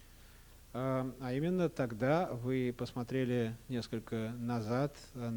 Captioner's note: non-english speech